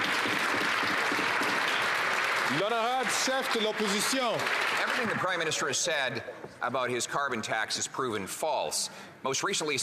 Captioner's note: some Applause